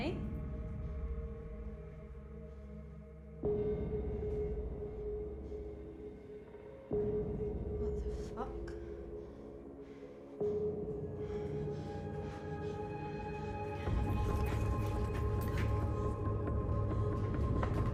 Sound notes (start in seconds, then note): 11.5 Alex breathing heavily; 14.2 rapid suspenseful music